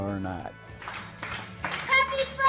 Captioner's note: rhythmic clapping